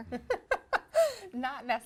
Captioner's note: laughs